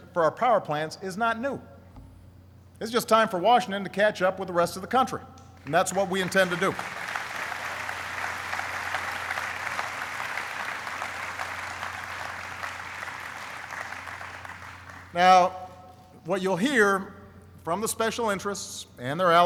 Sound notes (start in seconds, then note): 7.7 applauding